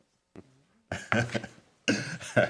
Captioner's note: laughter